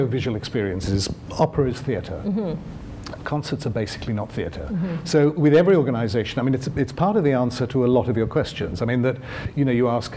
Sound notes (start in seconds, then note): none